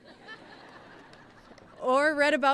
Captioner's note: laughing